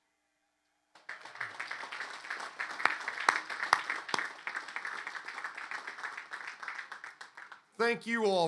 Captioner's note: applause